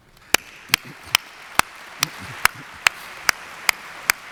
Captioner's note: audience applauds